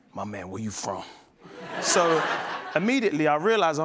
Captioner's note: laughter